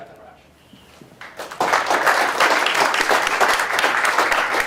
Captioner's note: applause